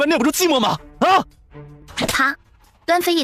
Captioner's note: slap